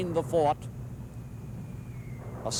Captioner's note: mortar fire whistling, booming